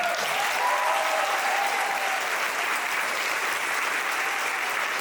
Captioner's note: audience applauding